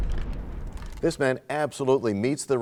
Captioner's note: crashing sound